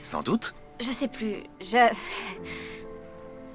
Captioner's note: stammering